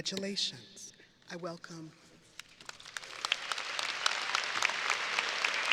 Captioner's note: audience applauding